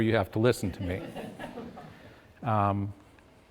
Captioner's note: audience laughs